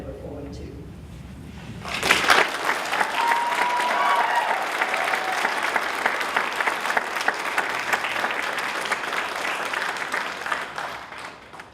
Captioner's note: applause